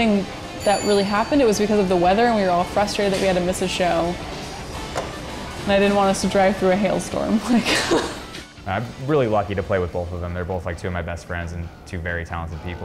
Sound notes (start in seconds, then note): 7.4 laughs